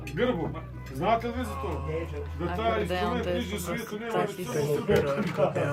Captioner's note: everyone speaking in foreign language